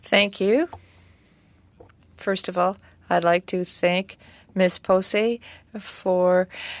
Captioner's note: speaking French